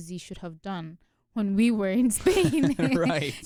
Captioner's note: both laugh